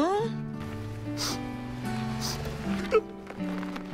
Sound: sniff

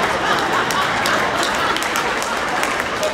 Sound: applauding

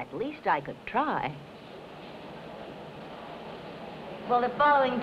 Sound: newspaper office ambiant sounds

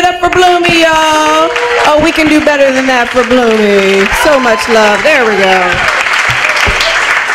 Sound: applause

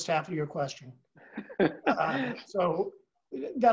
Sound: laugh

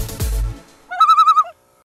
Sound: loon call

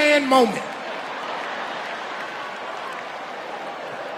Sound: audience laughing

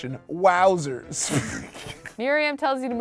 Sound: sputters and laughs

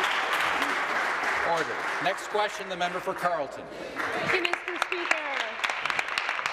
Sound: applause

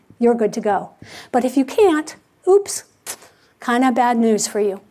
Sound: sucks teeth

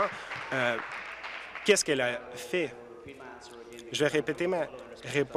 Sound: applause

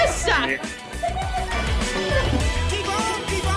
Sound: both laugh

